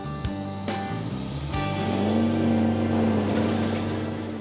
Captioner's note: revs engine